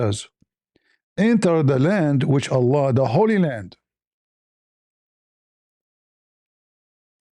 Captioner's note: Arabic